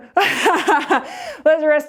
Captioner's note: laughs